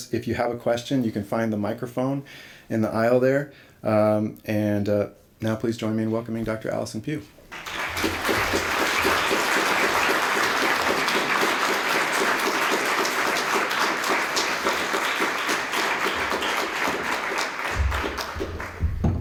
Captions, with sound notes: If you have a question, you can find the microphone in the aisle there. And, now please join me in welcoming Doctor Allison Pugh. [applause]